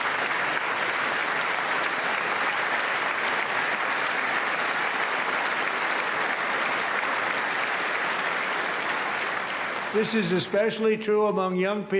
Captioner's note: applause